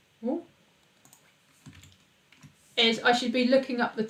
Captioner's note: keyboard clicks